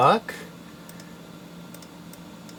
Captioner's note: confused mouse clicks